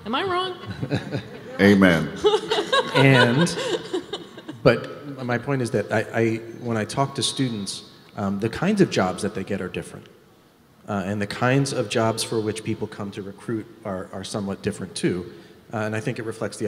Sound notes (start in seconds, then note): 2.2 moderator laughs